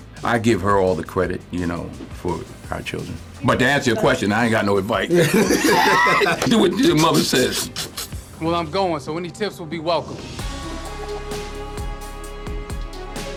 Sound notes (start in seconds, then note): 5.0 laughs; 10.2 rousing music